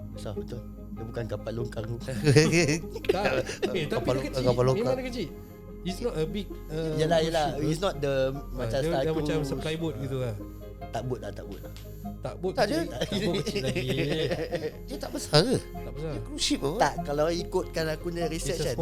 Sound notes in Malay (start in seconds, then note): 2.1 ketawa; 12.7 ketawa